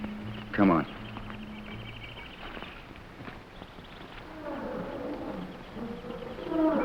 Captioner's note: gorillas groaning; jungle animals chattering